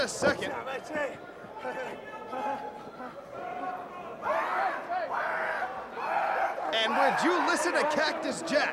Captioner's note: crowd chatter